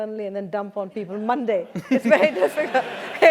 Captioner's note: laugh